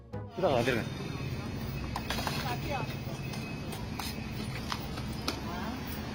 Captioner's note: passersby speaking in foreign language